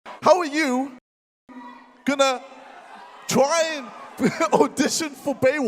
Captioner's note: laughs